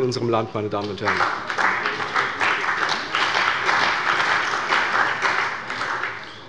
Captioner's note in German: Beifall bei der CDU und dem BÜNDNIS 90/DIE GRÜNEN